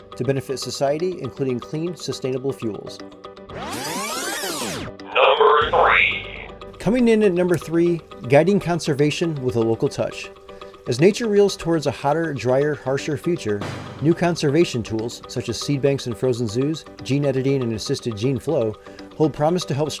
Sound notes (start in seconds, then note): 3.5 tape rewinding